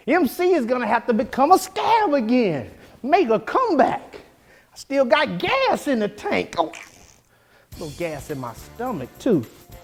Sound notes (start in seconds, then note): 6.6 farts